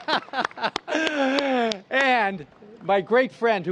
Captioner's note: applause